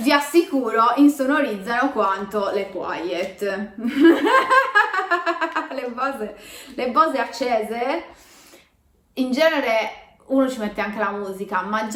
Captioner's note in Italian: risata